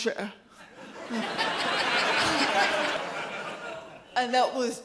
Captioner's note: audience laughs